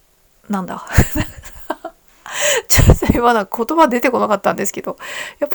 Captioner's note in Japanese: 笑い